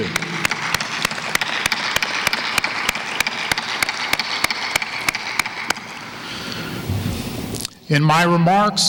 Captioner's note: applause